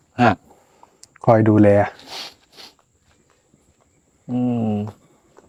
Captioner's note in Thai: เสียงสูดหายใจ